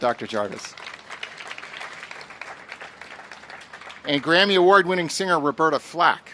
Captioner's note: applause